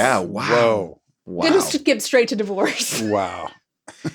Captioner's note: laughs